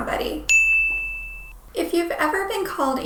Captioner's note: bell ringing